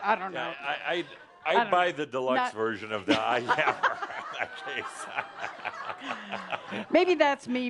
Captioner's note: more laughter